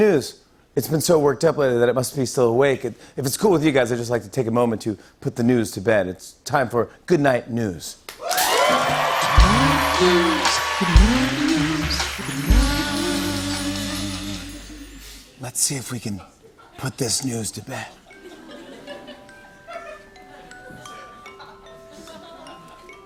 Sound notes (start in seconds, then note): 8.1 cheers and applause; 18.0 light laughter; 18.1 lullaby plays